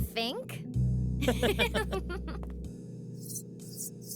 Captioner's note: laughing